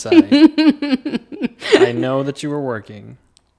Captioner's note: laughing